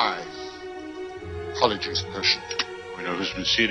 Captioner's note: sniffs